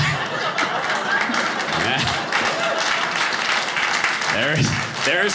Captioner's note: audience laughing; audience applauding